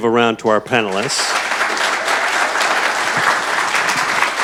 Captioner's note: audience clapping